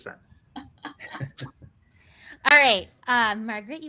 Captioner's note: laughs